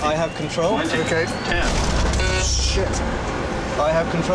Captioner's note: alarm beeps